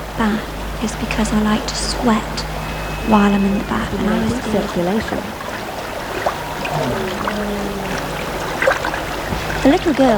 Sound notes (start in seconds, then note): 5.7 running water